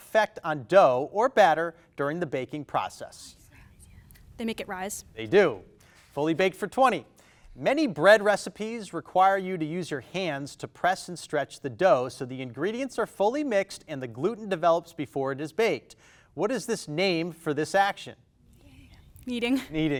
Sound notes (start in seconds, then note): none